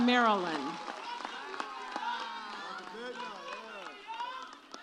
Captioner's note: audience cheers